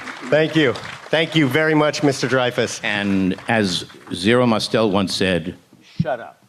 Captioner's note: applause